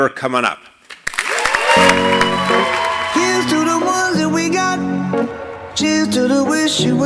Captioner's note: applause